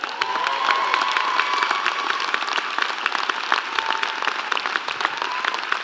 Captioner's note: applause and Cheering